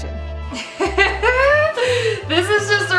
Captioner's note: laughs